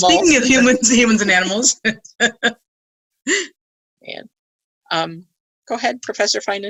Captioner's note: laughing; laughing